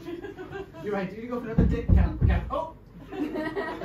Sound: knocks

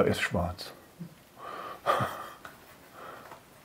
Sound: he laughs softly

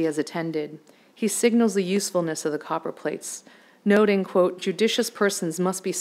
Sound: none

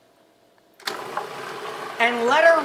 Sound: machine whirring

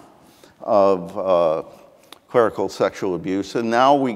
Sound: none

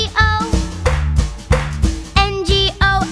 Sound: clap

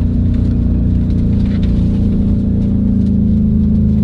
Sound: engine roars

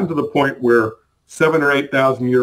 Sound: none

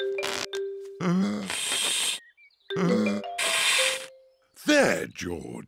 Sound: blowing deeply

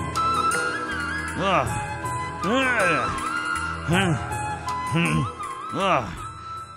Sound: grunts

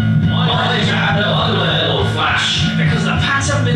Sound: crowd

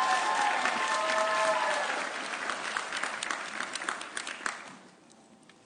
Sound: audience cheering

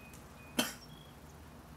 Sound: coughs

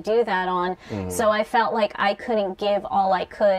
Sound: sounds of agreement

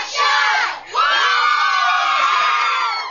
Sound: shouting

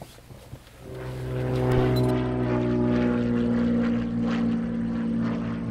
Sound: plane engine roaring

